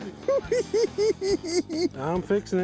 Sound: cackling

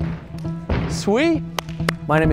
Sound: Bart claps

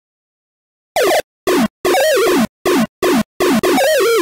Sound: beep, beep, bloop, beep, bloop

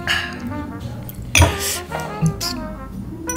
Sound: glass clanks

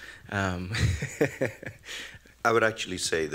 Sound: laughing

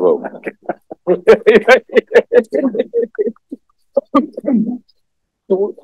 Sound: laughs

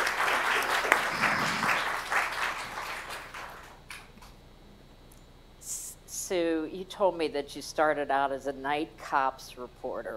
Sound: applause

